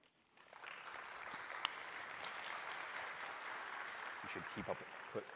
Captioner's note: applause